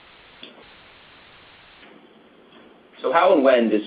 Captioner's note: silence